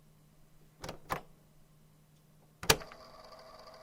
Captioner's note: click